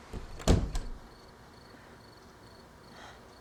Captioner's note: door thuds